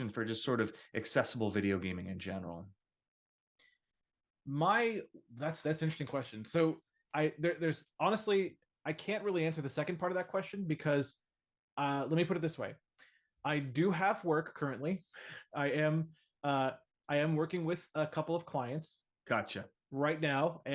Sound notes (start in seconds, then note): none